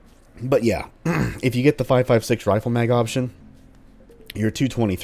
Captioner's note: clears throat